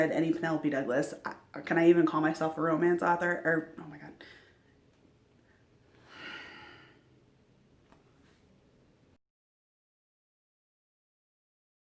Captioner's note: sigh